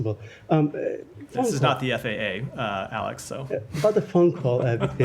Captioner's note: laughter